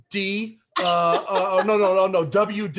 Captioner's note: laughs